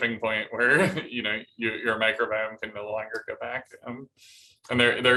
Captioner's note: laughter